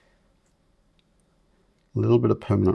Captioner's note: silence